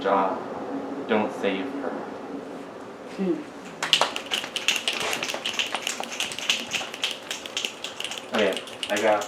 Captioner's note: snaps